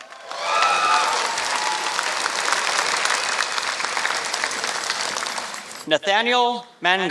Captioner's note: applause